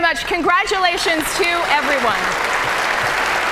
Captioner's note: applause